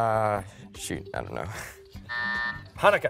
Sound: buzzer

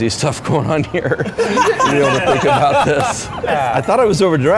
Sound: laughter

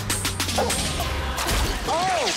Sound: dog barking

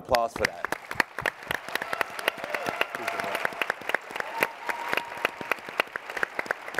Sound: audience clapping and cheering

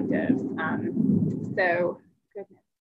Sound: thunder

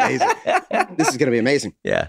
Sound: Glenn laughs

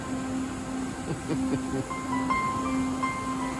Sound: person laughing

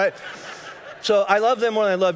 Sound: congregation laughing

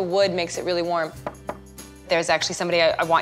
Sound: knocking

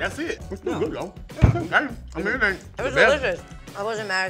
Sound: cast mumbling

